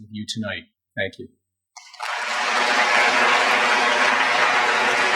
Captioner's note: applause